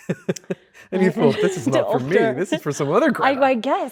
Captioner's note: Andrew laughing